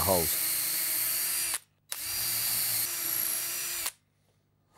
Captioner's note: drilling